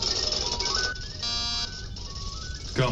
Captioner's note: door buzzes